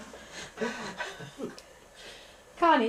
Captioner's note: laughter